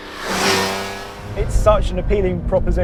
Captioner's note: engine revving